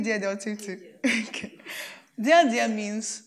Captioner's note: laughs